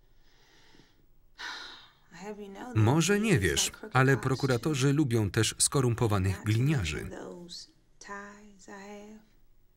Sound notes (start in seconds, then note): 0.0 exhales deeply